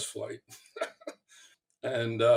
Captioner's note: chuckle